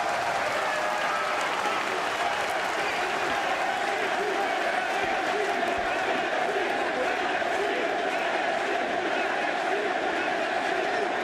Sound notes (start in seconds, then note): 0.0 crowd cheering